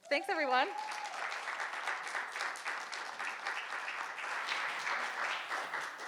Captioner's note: audience applauding